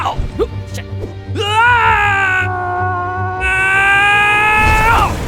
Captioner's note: yells